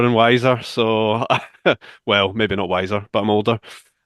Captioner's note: chuckles